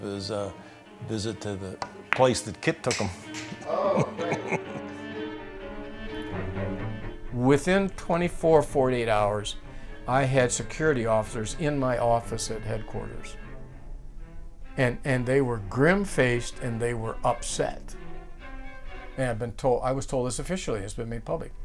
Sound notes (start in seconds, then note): 3.6 chuckles